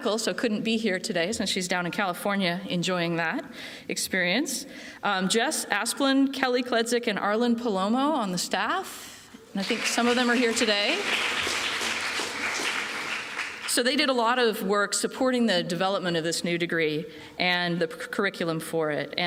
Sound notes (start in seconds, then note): 9.6 applause